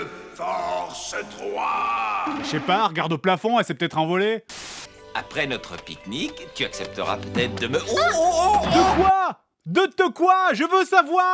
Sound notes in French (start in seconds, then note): 4.4 zap; 7.9 petit cri & gémissement